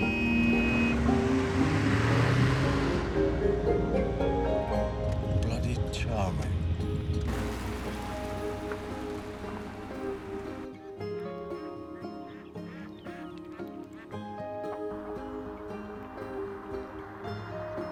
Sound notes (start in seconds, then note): 0.0 horn honking; 0.3 gentle music; 7.2 geese honking; 7.2 gentle music